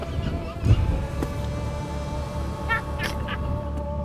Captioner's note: laughing